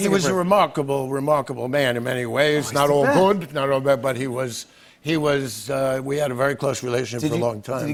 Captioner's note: none